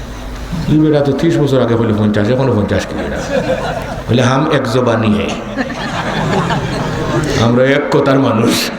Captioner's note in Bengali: সশব্দ হাসি